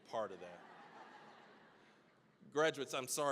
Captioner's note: audience laughing